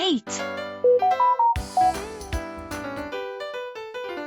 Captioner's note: Samsung notification sound